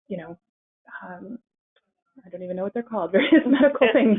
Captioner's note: chuckles